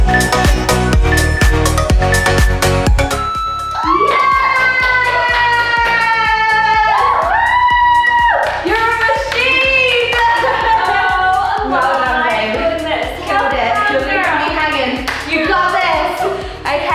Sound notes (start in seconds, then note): 0.1 alarm beeping; 3.6 cheering